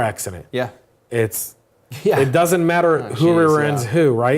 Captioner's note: laugh